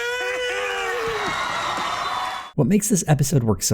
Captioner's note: audience is screaming in joy